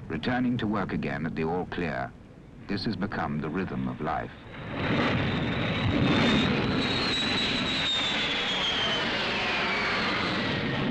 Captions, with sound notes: returning to work again at the all clear, this has become the rhythm of life. (planes roaring)